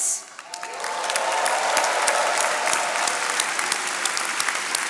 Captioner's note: attendees applauding